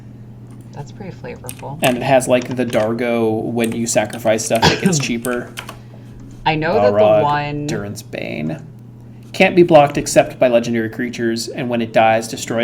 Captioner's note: typing